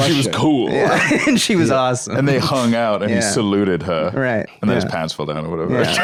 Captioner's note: laughs